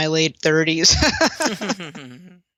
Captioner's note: laughter